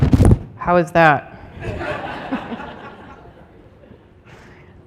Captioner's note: laughter